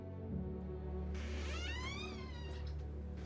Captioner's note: door creaking